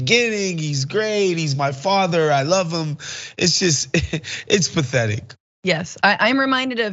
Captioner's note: laugh